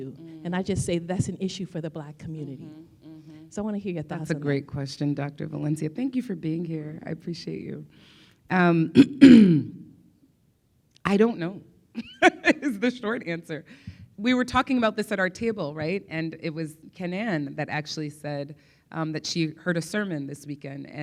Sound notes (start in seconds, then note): 8.9 clears throat; 12.1 laughs